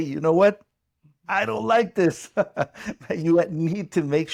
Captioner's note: chuckles